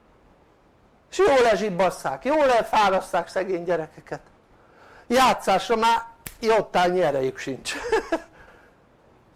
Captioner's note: laughter